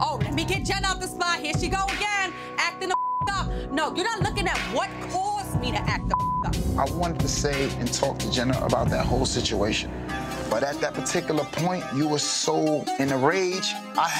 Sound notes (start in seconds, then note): 2.9 beep; 6.0 beep